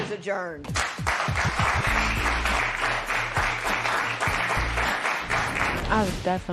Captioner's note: applause